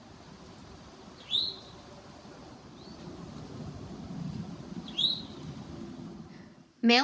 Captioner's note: towhee calling